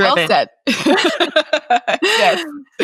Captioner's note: both chuckle